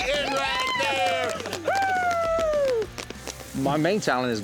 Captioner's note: cheering, applause